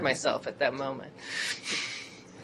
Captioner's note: laughter